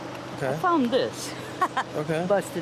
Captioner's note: laughs